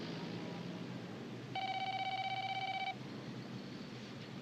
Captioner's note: phone ringing